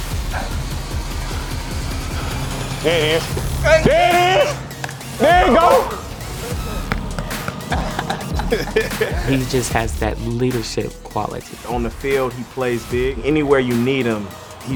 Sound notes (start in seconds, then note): 0.2 upbeat music; 6.9 both laugh; 6.9 claps